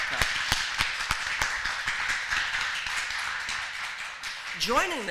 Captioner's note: applause